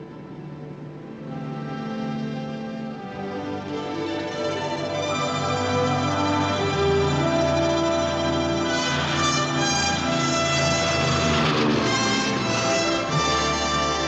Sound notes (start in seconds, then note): 4.4 dramatic music playing; 11.4 plane engine whirring